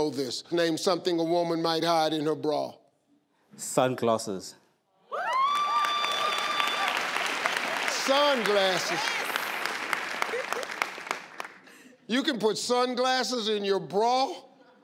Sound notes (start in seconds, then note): 5.1 crowd cheering; 10.2 crowd clapping